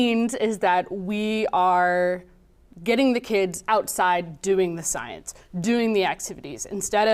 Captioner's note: none